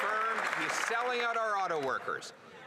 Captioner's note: applause